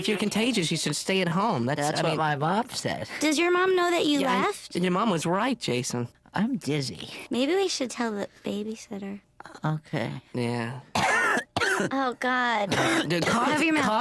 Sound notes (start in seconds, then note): 10.9 coughs